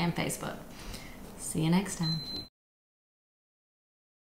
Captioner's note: timer beeps